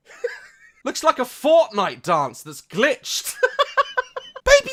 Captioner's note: laughs; laughs